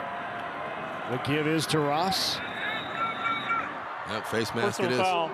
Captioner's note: referee blows whistle